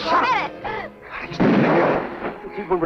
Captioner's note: gun firing